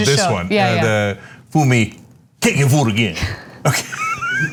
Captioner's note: laugh